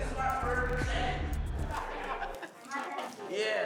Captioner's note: laughing